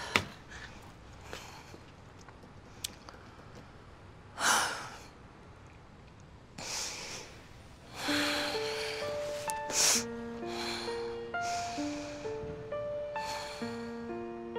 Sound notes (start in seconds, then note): 4.2 Kate sighs; 7.9 dramatic piano